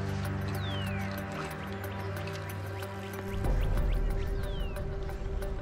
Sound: bird chirping

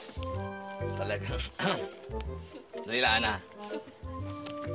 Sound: clears throat

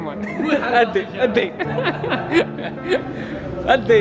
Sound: laughter

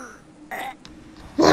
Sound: more death noise

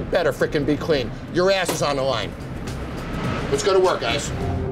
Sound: hand banging

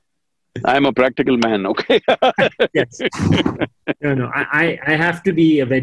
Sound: laughs

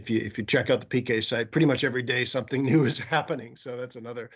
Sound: laughs

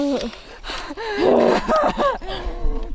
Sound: panicked Panting

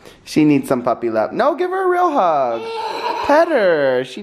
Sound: laughs

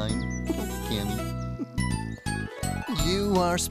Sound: chuckles

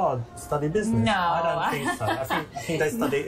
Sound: laughs

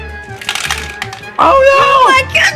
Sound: balls clanking

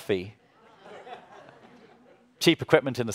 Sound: audience laughs

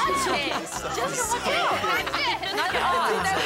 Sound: all laughing excitedly; all talking and laughing

